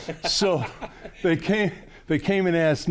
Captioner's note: laughing